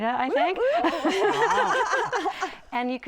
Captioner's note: laughter